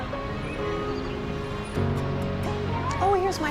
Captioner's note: distant traffic, birds